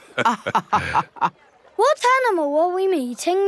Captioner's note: both laughing